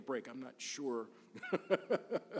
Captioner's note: laughs